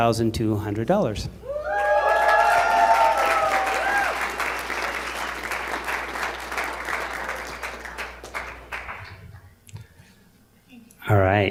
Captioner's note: applause